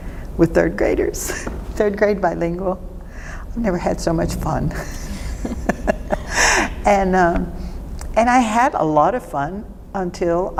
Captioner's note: laughing